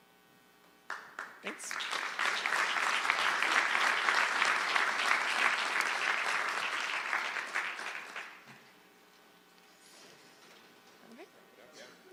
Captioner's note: applause